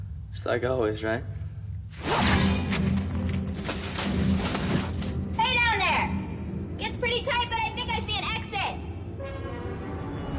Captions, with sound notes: Just like always, right? [rope swooshes] Hey down there! It's pretty tight but I think I see an exit.